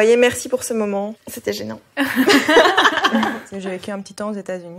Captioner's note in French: rires